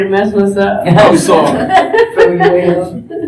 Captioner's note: laughter